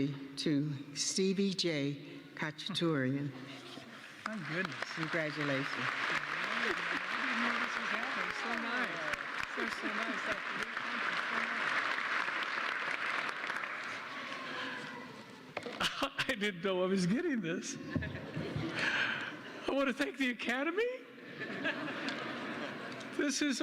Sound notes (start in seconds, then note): 8.0 applause